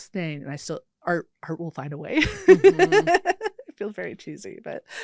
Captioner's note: laughs